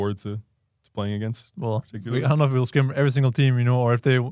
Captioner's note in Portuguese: risos